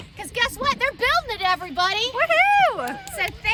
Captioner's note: cheering